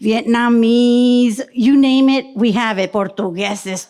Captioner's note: speaks in foreign language